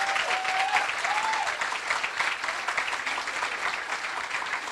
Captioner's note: applause